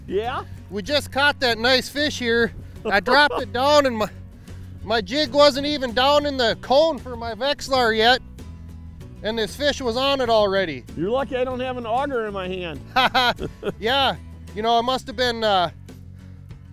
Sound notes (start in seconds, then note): 12.9 both chuckling